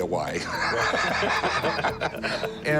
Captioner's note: both laughing